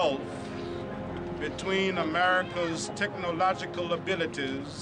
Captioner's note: none